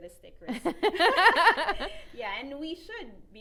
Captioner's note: laughing